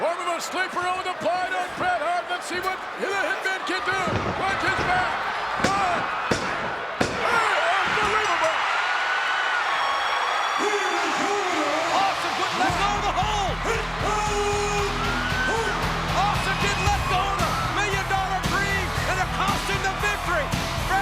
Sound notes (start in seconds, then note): 5.8 hand banging; 9.4 crowd cheering; 10.8 announcer vocalizing; 13.7 announcer vocalizing